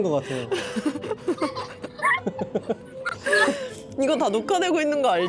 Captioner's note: is laughing uncontrollably